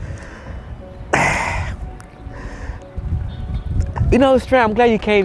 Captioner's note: laughs; participant sighing